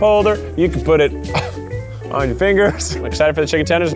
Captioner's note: laughs